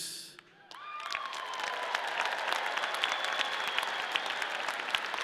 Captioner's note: audience cheering